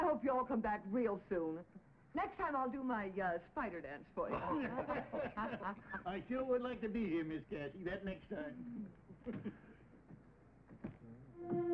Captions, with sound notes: I hope you all come back real soon. Next time, I'll do my spider dance for you. (laughing) - I sure would like to be here, Miss Cassie, that next time.